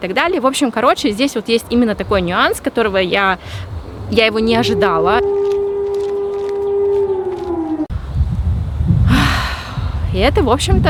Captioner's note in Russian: сирена